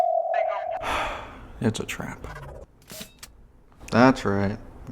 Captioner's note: sigh